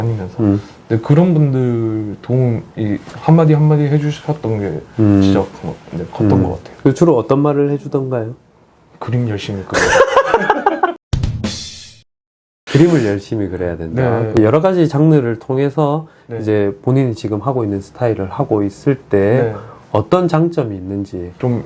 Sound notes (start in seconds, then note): 9.8 haha